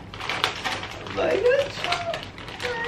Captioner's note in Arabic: يبكي من السعادة